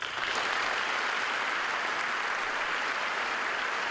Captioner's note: applause